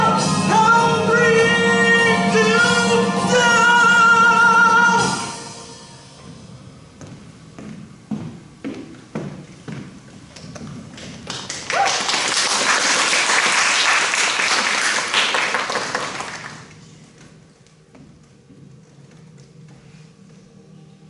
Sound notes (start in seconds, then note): 11.2 applause